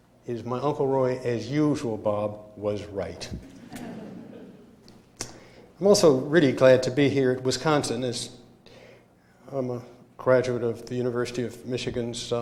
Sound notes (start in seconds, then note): 3.4 laughter